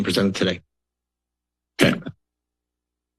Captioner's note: silence